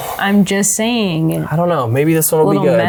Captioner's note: sighs